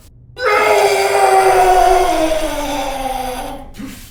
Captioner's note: Dan yelling